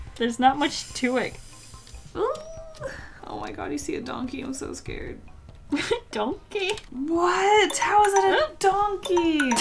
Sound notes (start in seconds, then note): 2.1 nervous squeal; 5.7 Scottish accent; 5.7 giggles